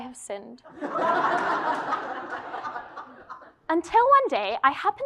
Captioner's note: laugh